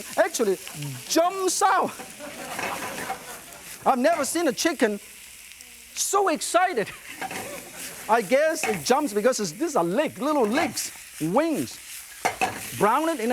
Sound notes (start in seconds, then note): 1.8 audience laughing